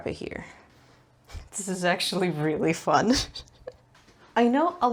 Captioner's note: giggles with delight